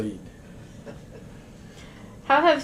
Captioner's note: laughter